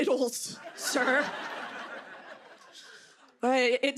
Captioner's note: laughter